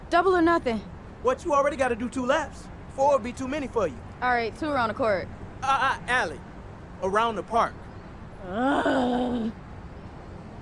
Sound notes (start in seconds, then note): 8.4 Alli groans